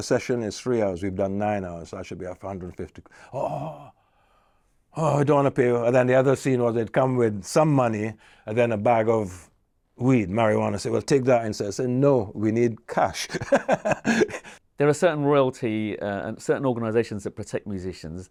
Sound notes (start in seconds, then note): 13.2 laughs